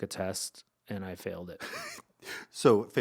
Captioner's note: laughing